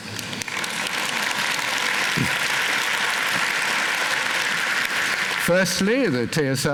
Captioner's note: applause